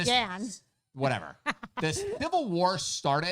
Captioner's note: laughs